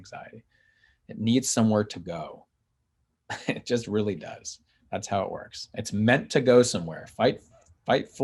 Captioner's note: chuckles